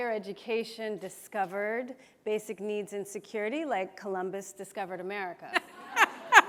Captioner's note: laughs